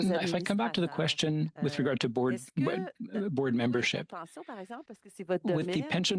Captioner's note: speaking French